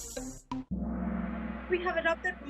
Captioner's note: gong